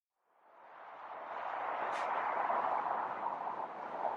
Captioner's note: cars humming